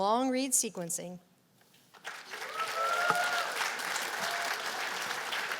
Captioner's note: cheers and applause